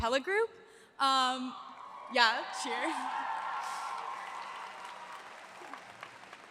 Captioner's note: audience applauds